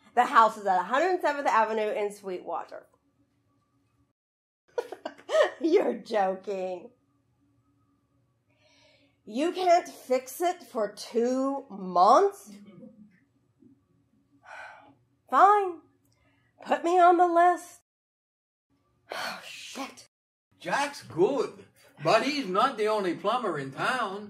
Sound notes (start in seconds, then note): 14.2 sighing